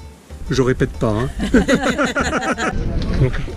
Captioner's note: laughs